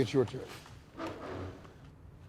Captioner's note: chair scraping